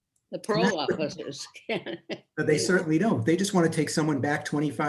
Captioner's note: chuckles